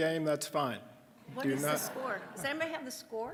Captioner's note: audience laughing